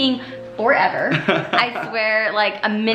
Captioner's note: laughs